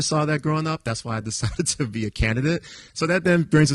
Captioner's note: chuckles